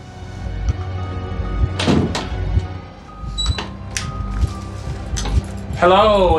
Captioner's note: nervous breathing